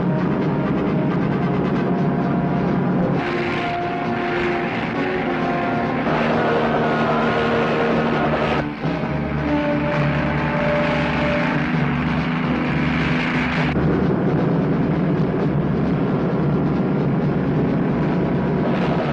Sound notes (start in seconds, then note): 0.0 suspenseful music; 0.0 truck engine whirring; 3.5 helicopter roaring; 14.0 suspenseful music; 14.0 truck engine whirring